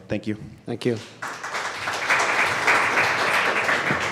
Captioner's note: applause